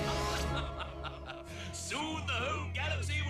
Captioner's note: laughs